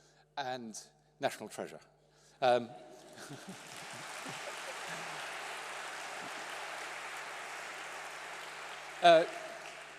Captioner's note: applause